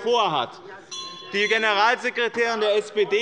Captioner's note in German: Anhaltende Unruhe - Glockenzeichen der Präsidentin